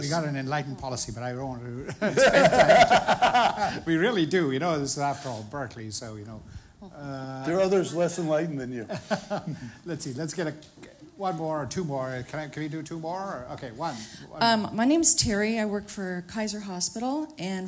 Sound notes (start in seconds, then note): 1.8 laughter